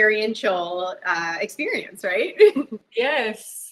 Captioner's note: chuckles